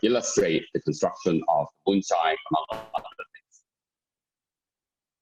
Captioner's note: murmur